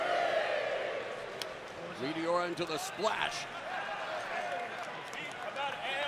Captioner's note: crowd cheering